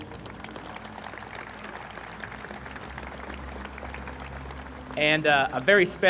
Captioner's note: applause